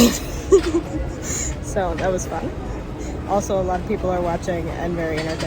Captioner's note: laughs